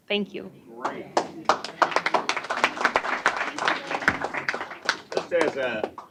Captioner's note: applause